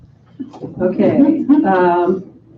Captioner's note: group chuckling